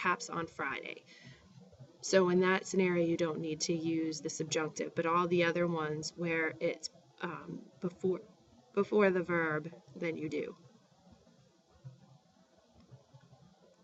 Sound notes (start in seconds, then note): 6.4 speaking spanish; 12.5 spanish